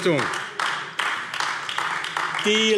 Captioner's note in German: Beifall AfD